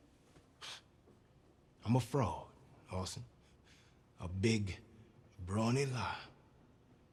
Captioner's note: scoffs